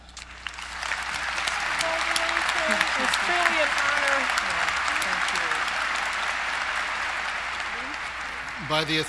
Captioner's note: applause